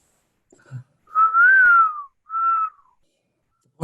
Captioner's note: whistles